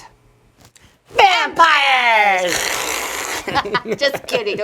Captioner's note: hissing